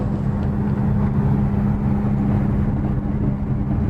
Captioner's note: engine noise, interior rattles